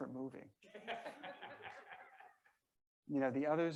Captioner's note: members laughing